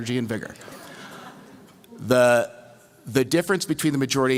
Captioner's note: laughter